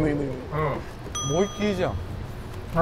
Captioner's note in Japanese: 効果音 チーン